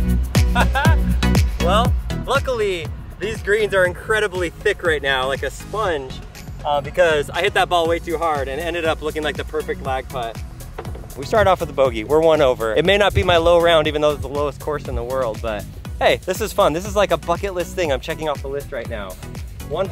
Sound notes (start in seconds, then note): 0.7 chuckles